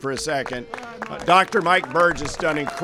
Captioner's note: applause